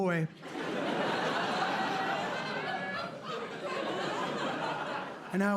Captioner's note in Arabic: ضحك